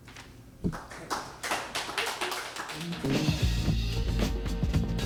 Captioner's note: applause